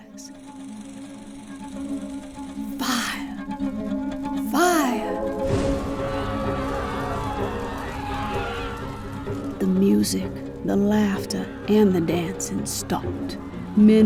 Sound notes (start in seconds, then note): 0.6 film reel fluttering; 0.6 tense music; 5.4 passengers screaming